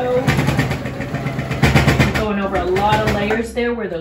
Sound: loud sewing machine noises

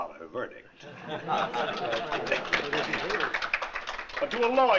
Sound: applause

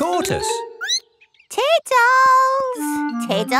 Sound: squeaks

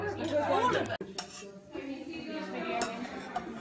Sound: spoon scooping

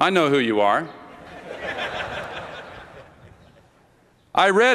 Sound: laughter

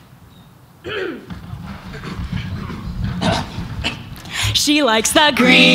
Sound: clearing throat

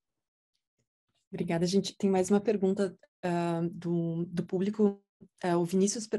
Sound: speaking in Portuguese

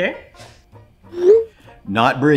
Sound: text whooshing

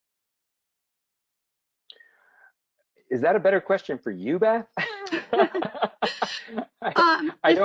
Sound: laugh

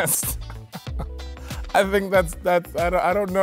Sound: laughing

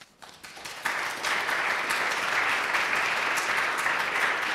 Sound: applause

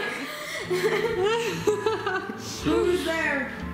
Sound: laughing

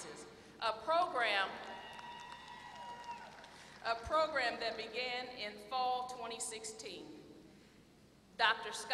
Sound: applause

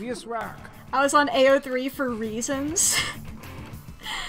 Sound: laughs

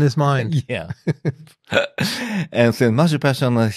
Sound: laughs

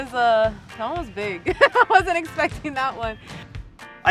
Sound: laughs

